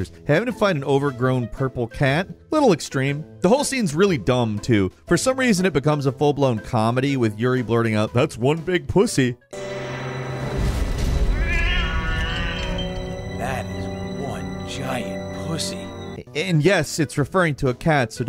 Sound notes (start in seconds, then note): 9.5 suspenseful music; 11.3 cat meowing